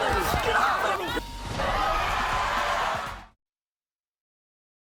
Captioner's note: audience gasping